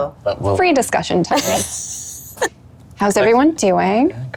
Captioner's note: laughs